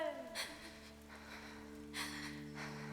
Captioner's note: gasps